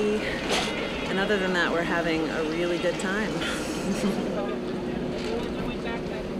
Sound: laughing

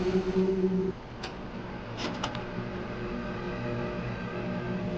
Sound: string music; VHS clicks

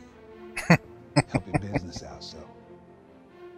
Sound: laughing

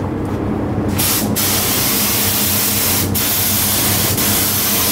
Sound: air spraying loudly

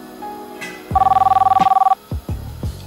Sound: phone ringing

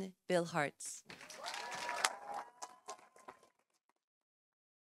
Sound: audience cheering

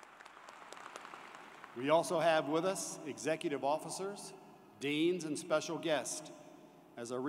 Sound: applause

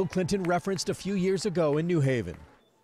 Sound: nats cheers

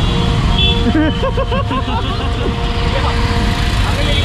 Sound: laughs

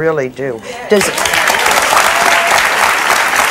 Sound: audience claps

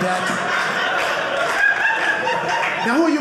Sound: audience laughing

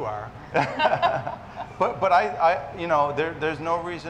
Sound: several chuckle

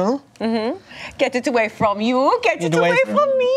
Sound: imitates German accent

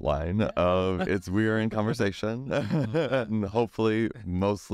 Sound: laughs

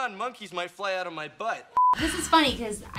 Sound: beep

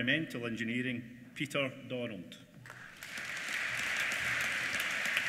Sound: applause

